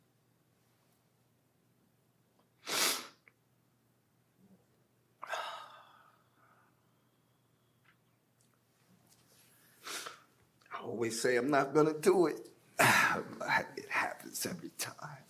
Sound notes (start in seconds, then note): 2.6 sniffles; 5.2 sighs